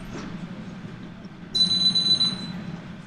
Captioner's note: phone ringing